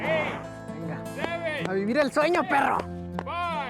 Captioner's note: speaks in Spanish